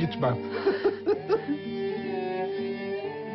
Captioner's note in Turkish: Gülüyorlar